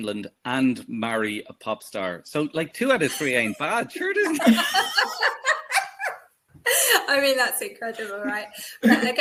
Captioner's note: laughs